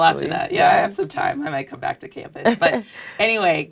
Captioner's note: laugh